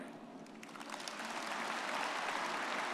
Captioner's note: everyone applauding